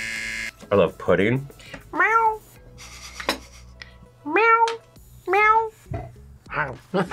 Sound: buzzer; meows; both laugh

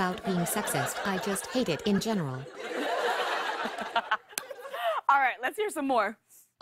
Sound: laughs

